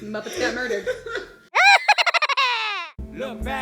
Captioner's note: evil laughter